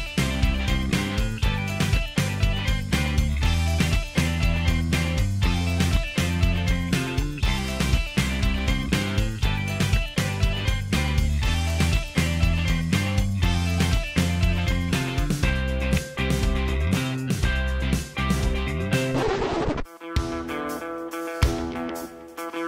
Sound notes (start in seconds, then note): 19.1 screech sound effect